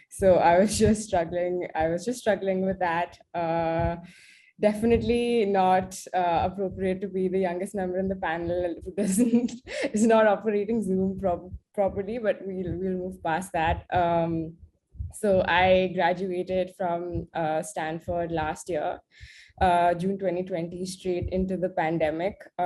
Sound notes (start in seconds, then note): 8.6 laugh